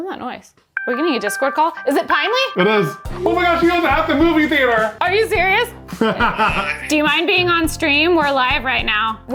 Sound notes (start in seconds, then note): 6.0 laughing